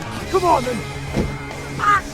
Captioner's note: cries in pain